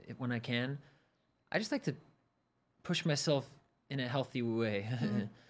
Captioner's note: chuckles